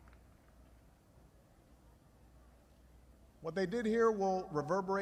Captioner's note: applause